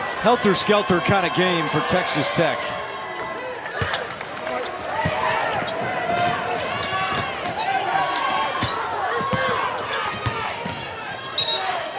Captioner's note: whistle